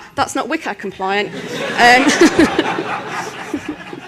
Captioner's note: laughter